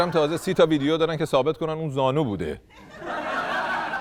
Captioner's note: laughter